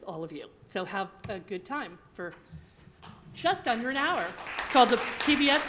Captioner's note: applause